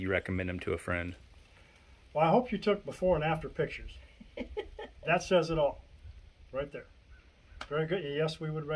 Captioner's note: giggle